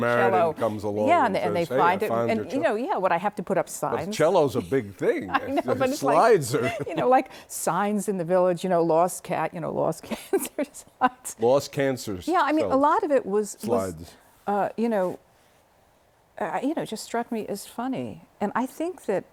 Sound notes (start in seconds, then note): 5.2 laughter